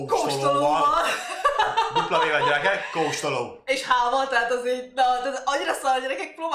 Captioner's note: huge laughter